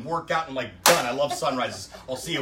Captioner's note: claps once